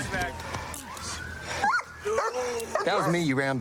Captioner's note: dog barks